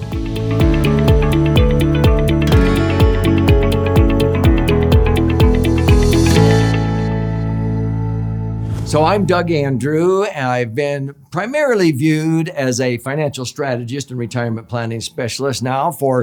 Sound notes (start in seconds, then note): 0.1 bright music; 8.5 air whooshing